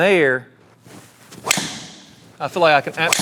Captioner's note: club thwacks